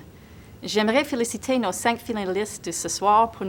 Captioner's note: speaking in French